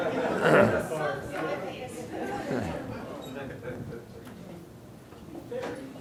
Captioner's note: audience laughing; audience speaking indistinctly